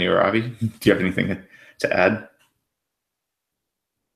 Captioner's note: extended silence